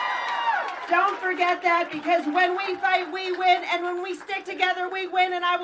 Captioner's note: applause